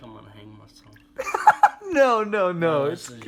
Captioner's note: giggles